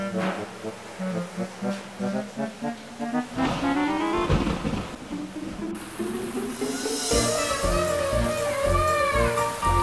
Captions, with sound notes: [thunder crashing] Mm, it's so nice to bathe in the rain!